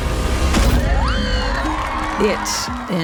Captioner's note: children cheer, applaud